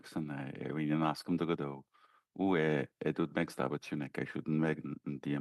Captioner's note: speaking French